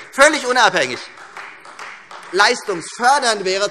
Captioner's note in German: Beifall Freie Demokraten